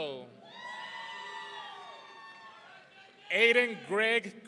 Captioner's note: audience cheering